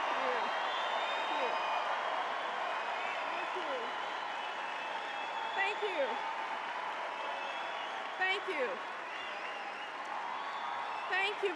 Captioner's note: Applause + CR's thank you's